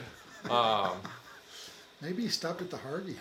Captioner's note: attendee chuckles